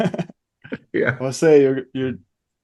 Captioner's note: laughs